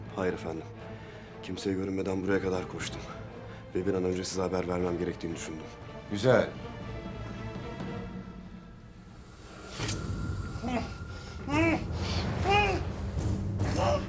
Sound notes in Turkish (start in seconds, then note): 7.0 Müzik - Gerilim; 9.6 Bıçak sesi; 11.4 Müzik - Gerilim